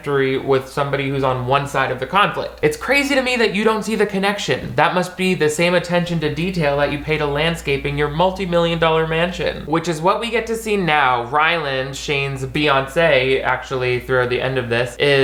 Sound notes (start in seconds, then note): none